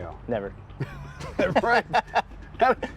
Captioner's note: laughing